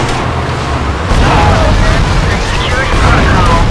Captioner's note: engine roaring